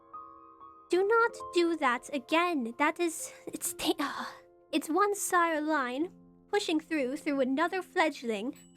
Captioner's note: sigh